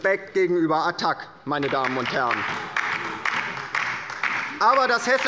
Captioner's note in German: Beifall bei der LINKEN